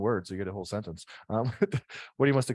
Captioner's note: chuckles